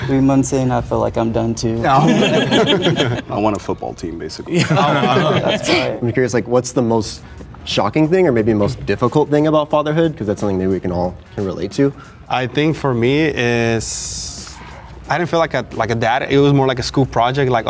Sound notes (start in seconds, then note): 1.9 group laughing; 4.5 group laughing